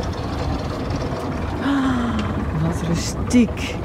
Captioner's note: sigh